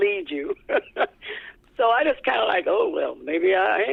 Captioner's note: laughter